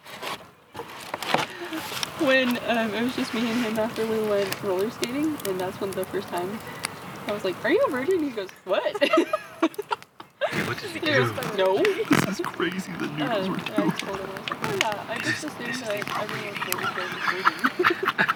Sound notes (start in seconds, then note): 8.7 laughter